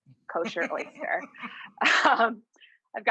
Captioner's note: laughs